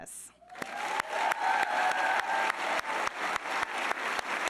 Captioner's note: all applauding